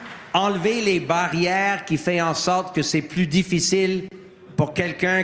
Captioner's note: applause